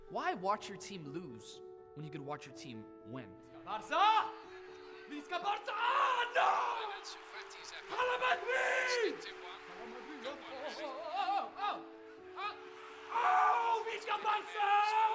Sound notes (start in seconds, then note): 4.2 man shouting in foreign language